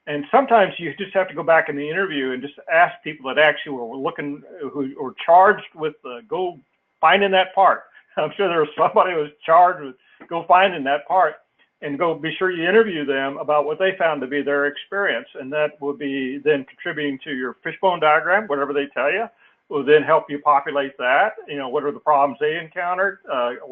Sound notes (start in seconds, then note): 7.9 laugh